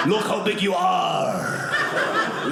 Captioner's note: audience laughing